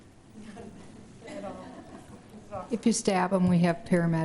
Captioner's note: laughs